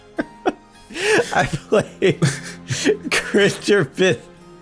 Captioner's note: through laughter